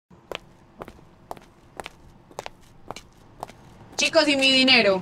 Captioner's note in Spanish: pasos de tacón